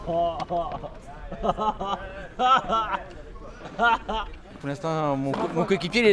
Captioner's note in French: rires